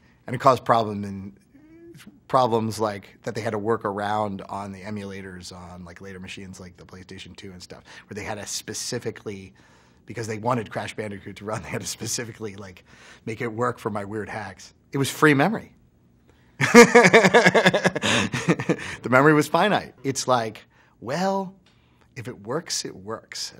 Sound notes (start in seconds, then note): 16.6 laughs